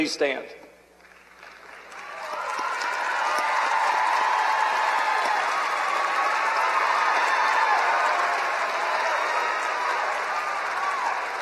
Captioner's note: applause